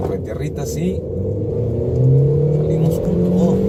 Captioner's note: engine revving